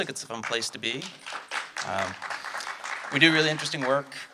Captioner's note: audience clapping